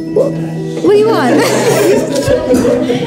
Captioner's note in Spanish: risas